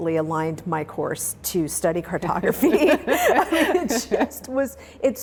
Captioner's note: laughs